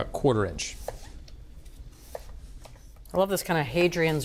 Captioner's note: knife chopping